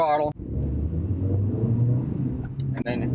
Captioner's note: engine accelerating